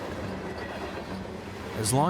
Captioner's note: train chugs